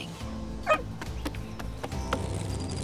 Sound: dog barks; truck engine

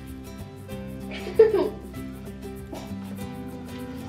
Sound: giggles

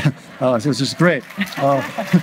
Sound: audience laughs

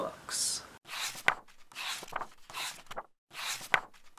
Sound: pages turning

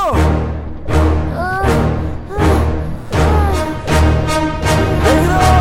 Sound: sighs

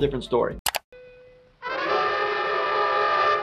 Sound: mouse clicks; dramatic music

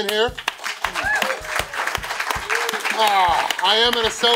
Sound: crowd cheering

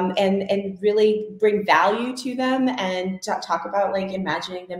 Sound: none

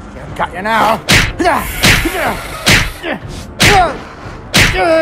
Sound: repeated smack down sounds

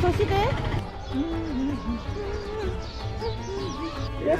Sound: A hum song comes out naturally

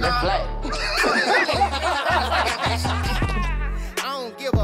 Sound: group laughs

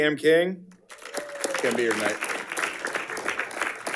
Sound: audience applauding

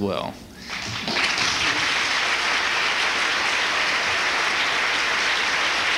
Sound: applause

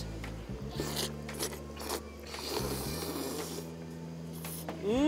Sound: slurping sounds

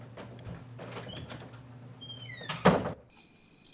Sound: door opens and closes

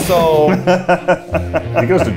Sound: laughs

